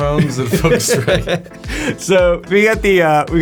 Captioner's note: laughing